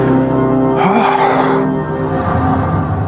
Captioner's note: deeeep p breaeathth